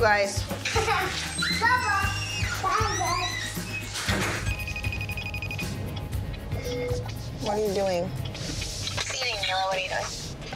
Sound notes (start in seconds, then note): 3.5 phone ringing